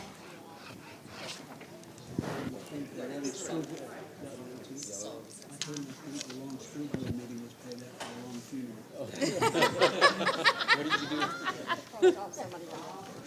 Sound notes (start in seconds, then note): 9.2 laughing